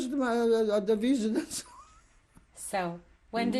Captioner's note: laughs